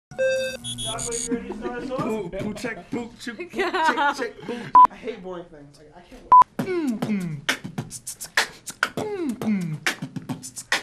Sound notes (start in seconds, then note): 2.3 making beatbox noises; 8.1 beatboxing